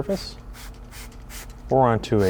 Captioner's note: spray can hissing